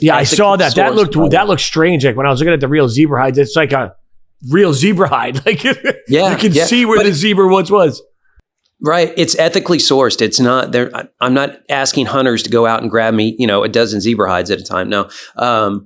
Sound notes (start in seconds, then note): 5.2 laughing